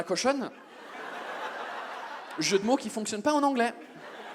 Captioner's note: audience laughs